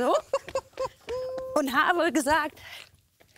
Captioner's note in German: Pierre lacht